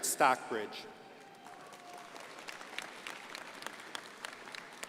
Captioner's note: crowd applauding